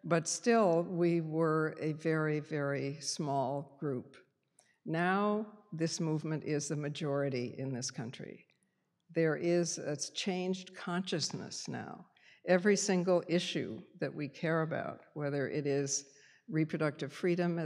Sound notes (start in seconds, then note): none